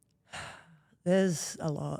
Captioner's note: Rhea exhales deeply